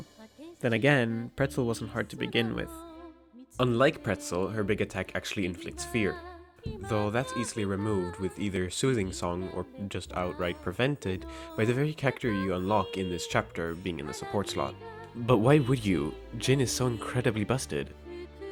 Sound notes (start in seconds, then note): 6.6 mike bump